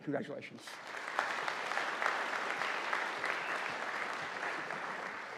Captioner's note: audience applauding